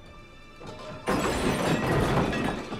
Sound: metal clatters

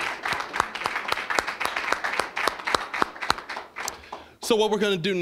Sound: applause

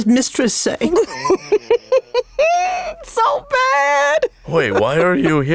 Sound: laughs

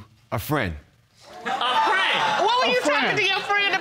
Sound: audience laughing

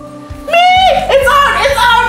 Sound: screams

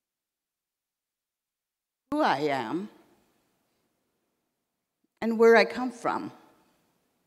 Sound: in English

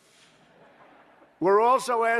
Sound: laughter

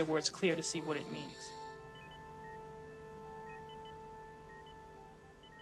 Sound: monitors beeping

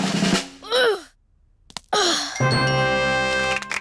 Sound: drum roll; groans

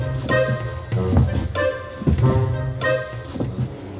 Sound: footsteps

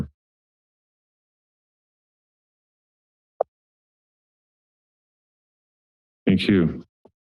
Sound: silence

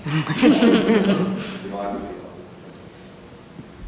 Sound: audience laughter

